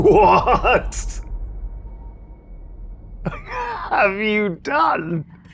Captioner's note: laughs